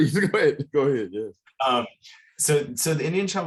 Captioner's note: both chuckle